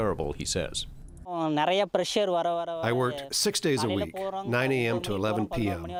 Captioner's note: through translator